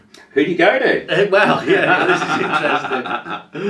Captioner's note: laughs